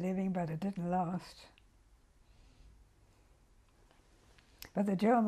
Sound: pauses for 3 seconds

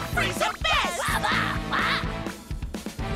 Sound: Wobbuffet mutters

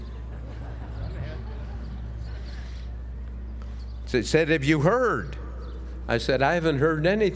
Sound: laugh

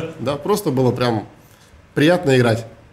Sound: none

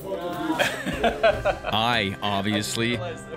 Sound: laughs

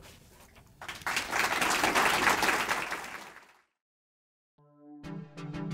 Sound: audience applauding

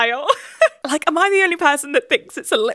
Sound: laughs

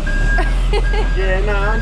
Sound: laughing

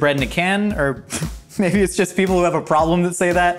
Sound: laughs

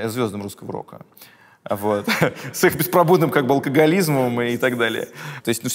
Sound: Dud laughs

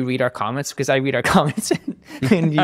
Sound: laughing

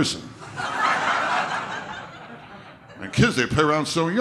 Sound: audience laughter

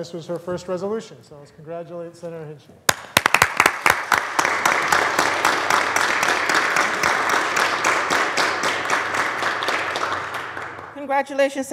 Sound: applause

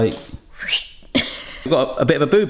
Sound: whistles

